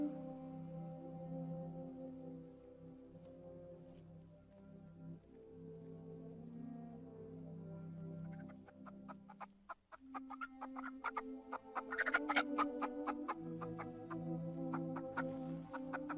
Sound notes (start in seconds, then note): 0.0 peaceful orchestral music; 8.2 chickens cluck